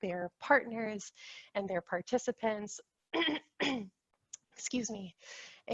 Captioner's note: clears throat